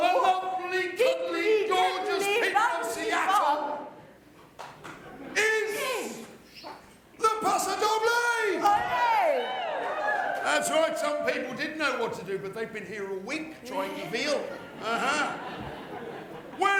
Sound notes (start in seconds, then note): 8.4 audience cheers